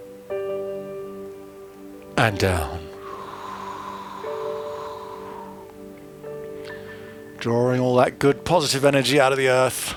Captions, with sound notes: And down. (inhaling and exhaling) Drawing all that good, positive energy out of the earth.